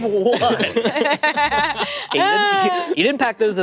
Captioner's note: group laughing